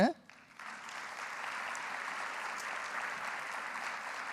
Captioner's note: audience applauding